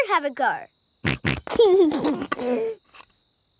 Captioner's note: snorts and laughs